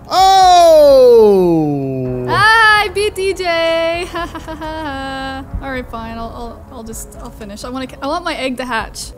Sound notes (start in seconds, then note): 4.0 laughs